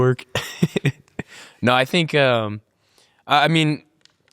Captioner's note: laughs happily